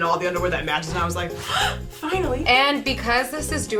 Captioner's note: gasps